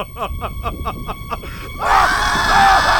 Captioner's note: inhale